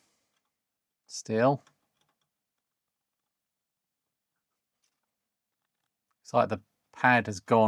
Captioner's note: silence